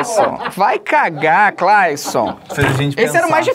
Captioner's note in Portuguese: risadas